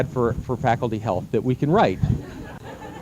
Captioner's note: laughter